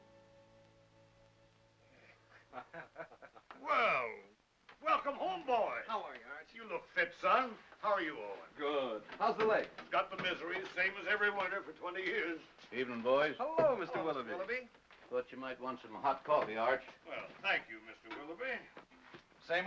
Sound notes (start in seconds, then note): 0.0 soft music; 2.3 laughter